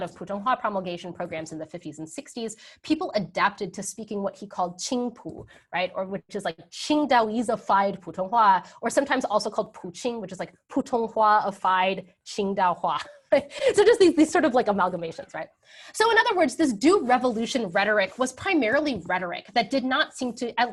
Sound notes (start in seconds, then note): 4.8 speaking in a foreign language; 9.4 speaking in a foreign language; 12.7 speaking in a foreign language; 13.0 laughs